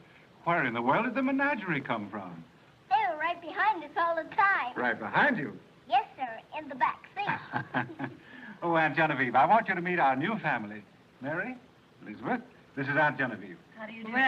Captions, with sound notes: Well, where in the world did the menagerie come from? They were right behind us all the time. - Right behind you? - Yes, sir, in the backseat. [chuckles] Oh, Aunt Genevieve, I want you to meet our new family. - Mary, Elizabeth, this is Aunt Genevieve. - How do you do?